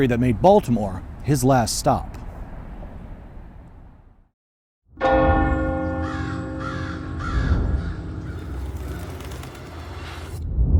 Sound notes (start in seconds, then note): 5.0 clock chimes; 6.1 bird calls; 8.3 bird wings flap